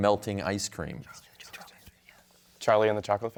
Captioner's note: team whispering